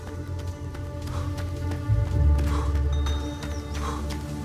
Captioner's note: panting